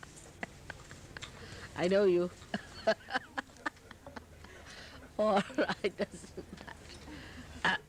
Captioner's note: laughs